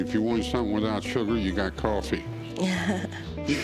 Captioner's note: laughs